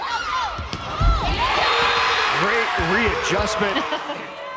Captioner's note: players yelling; crowd cheering loudly